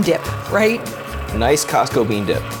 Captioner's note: mixer humming